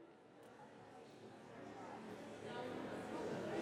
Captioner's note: crowd chatter